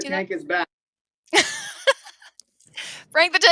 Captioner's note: laughs